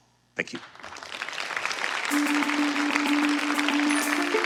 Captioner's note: applause